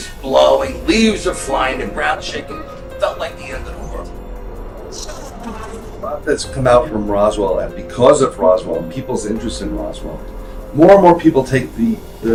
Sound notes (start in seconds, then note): 7.2 jets sounds